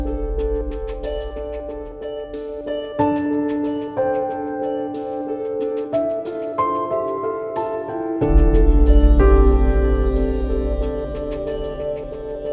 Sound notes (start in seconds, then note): 0.3 slow piano music; 8.2 chimes